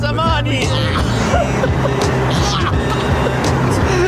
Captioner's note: laughter